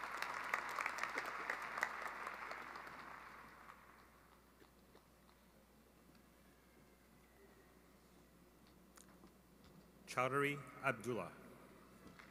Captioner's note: cheering and applause